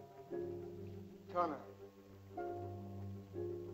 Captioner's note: man speaks in caveman language; tense music